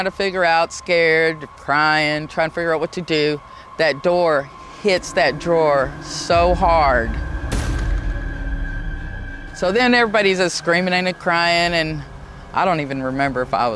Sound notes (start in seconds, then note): 6.7 door thudding; 6.7 suspenseful music